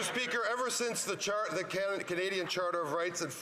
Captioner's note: some Applause